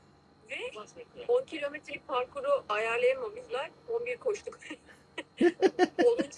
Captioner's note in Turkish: kahkaha